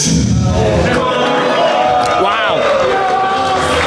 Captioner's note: booing